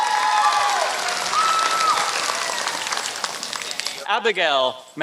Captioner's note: applause